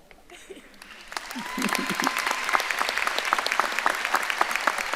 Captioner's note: audience applauding